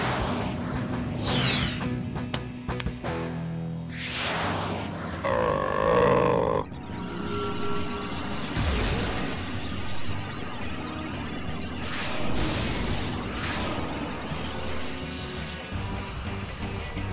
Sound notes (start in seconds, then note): 5.2 growling; 7.3 electric static